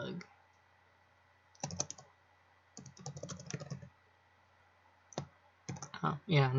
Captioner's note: keyboard clacking